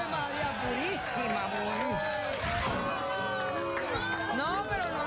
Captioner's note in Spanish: abucheos